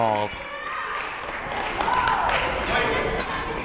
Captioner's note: crowd clapping